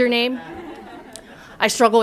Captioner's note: laughter